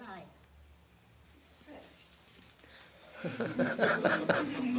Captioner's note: K laughs; laughter